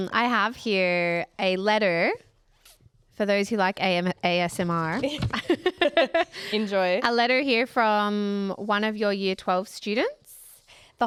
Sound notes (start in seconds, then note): 5.1 both laughing